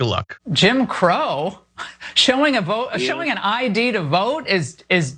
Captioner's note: laugh